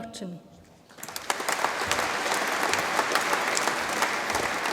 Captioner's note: audience applauds